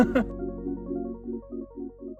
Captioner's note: laughing; gentle music